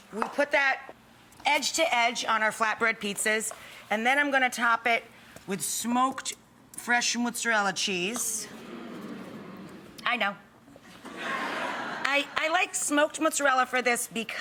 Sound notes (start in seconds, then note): 8.4 audience fawns; 11.0 audience laughs